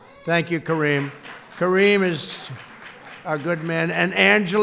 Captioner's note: applause